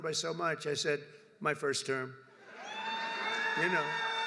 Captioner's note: applause